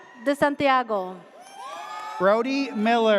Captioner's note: audience cheers